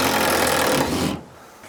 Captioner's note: drill whirring